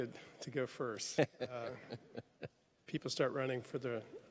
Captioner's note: laughs